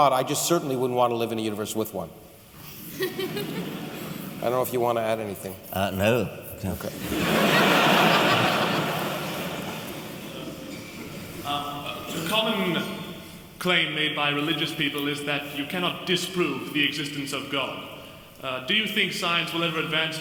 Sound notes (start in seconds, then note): 6.9 laughter